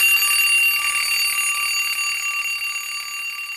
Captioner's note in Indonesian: lonceng